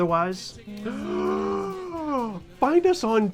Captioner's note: gasps